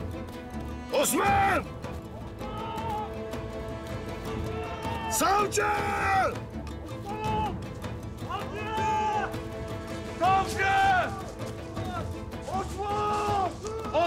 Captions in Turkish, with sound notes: Osman! Savcı! (Bağırma sesleri) Osman!